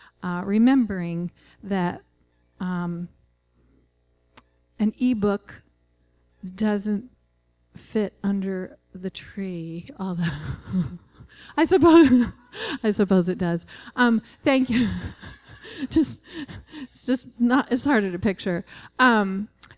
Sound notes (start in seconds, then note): 11.0 laughing; 14.7 laughter